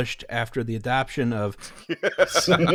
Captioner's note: laughter